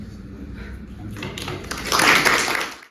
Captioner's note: applause